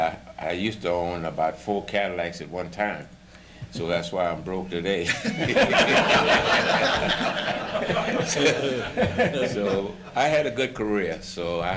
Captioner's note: laughter